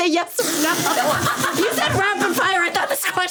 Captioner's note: everyone laughing